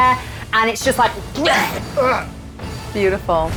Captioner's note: grunts